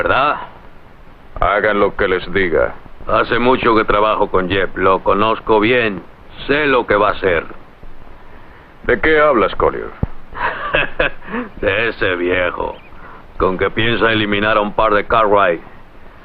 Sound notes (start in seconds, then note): 10.3 laughs